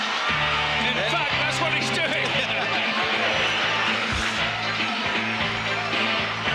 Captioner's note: laughs